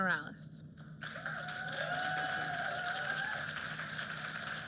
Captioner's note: applause